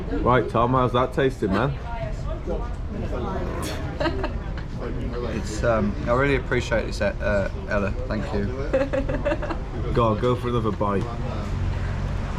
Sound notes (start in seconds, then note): 8.7 chuckles